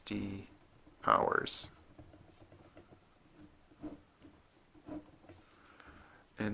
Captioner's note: writing